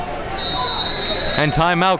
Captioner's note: whistle blows